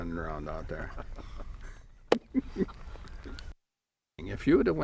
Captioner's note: laughs